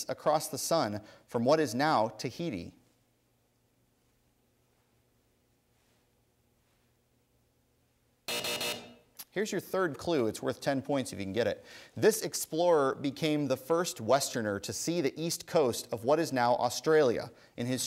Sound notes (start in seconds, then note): 8.2 buzzing